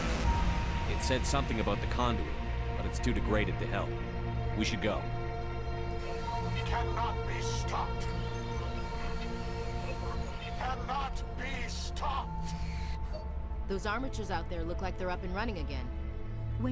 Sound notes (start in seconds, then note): 8.7 static